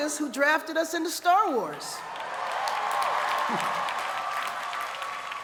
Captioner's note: cheers and applause